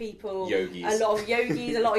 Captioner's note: chuckles